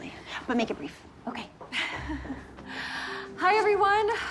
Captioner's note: chuckling